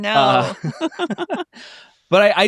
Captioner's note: both laugh